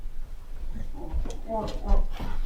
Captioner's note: floor creaking